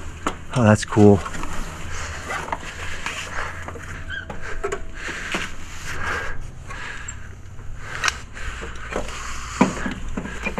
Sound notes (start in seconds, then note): 1.2 rope rustling; 6.3 breathing deeply